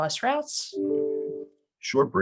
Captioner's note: computer dings